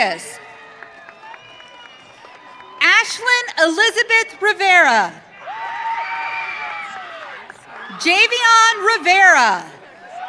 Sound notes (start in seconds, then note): 0.3 audience cheering; 5.4 audience cheering